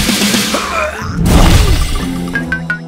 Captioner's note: struggling grunts